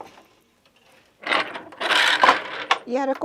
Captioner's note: noise of shuttle moving